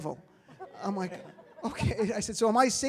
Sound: audience laughs

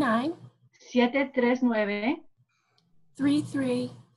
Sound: speaking spanish

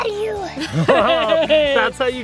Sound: laughing

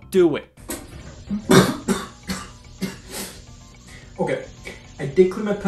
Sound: coughs

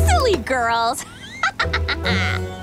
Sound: evil laughter

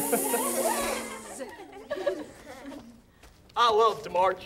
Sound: everyone laughs

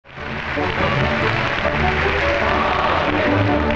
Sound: audience applauds

